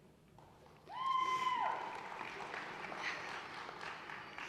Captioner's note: audience cheering